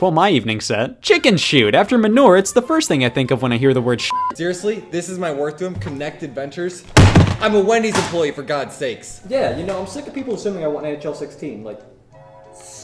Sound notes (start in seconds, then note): 4.0 beep; 6.9 slams table